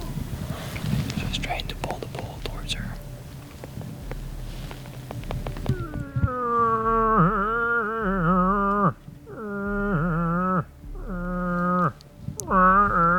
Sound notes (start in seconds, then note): 6.2 imitating moose call